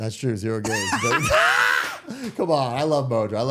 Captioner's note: all laughing